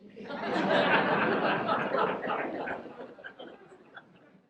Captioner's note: audience laughs